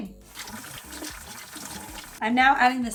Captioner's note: water pouring